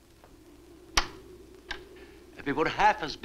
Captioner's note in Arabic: طقطقة القفل